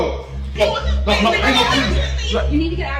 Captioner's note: Ruth and Louis yelling